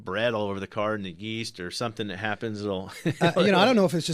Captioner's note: laughs